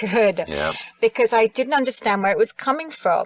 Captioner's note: sighs